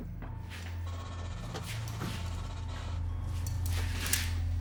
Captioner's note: digital rustling; more clanging; gun clicks